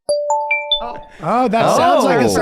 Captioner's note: internet phone ringing